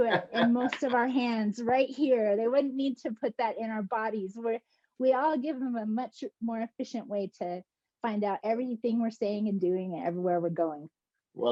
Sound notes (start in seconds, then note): 0.0 laughter; 0.4 single clap